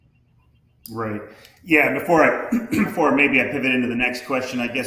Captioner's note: clears throat